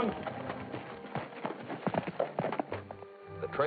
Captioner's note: horse trotting